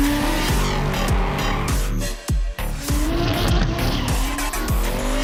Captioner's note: tires squeal